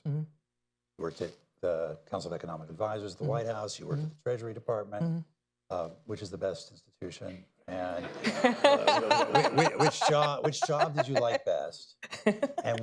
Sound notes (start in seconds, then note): 8.0 laughter